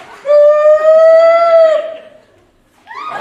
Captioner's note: screaming?